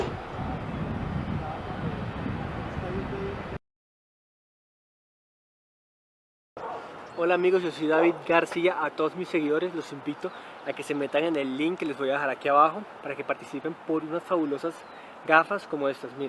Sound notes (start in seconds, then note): 0.0 wind gushing